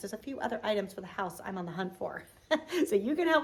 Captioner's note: giggles